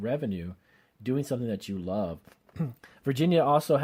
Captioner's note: clears throat